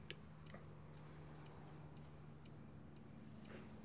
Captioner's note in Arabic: دقات الساعة